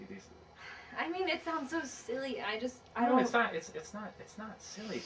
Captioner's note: none